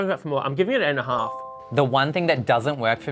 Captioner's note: bell dings